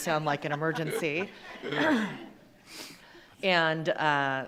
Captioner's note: attendees laughing